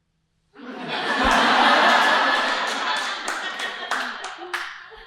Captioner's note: audience laughing